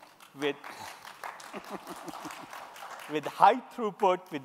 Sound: applause

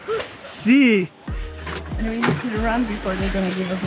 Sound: speaks in foreign language

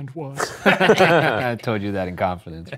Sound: laugh

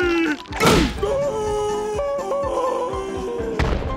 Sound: screaming; thud

